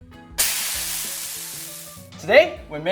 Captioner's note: sizzling sound